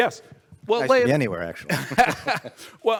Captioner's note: both laugh